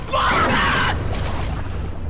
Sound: loud crash

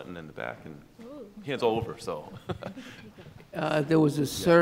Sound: laughs

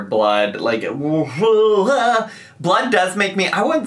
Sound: gagging

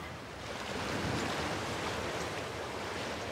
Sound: waves crash

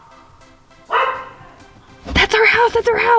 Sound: dog barking

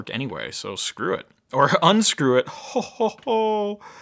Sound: laughs

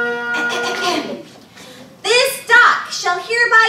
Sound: Sam clears throat

